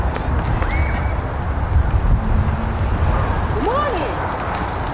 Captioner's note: child squeals